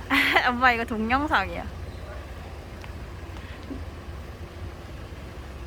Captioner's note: laugh